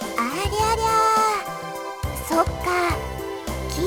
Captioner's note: none